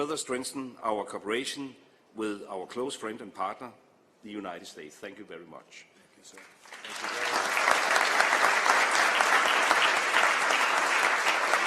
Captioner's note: applause